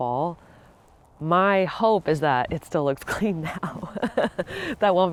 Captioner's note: laughs